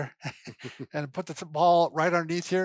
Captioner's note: laughing